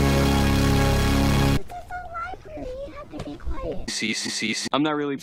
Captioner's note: child's voice, pitched up